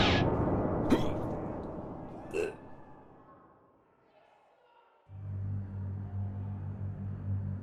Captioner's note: groaning